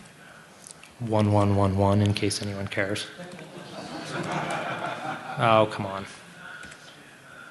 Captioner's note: laughter